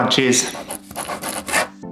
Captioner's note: scribble sound